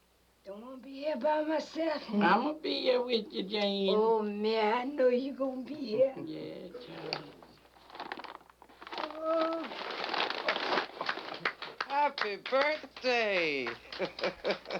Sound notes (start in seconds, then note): 7.8 unwrapping gift, clapping; 13.6 laughs